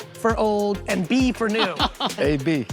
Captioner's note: laughing